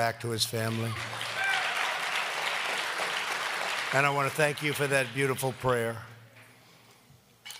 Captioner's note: applause